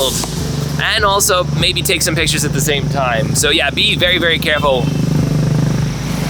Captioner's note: honking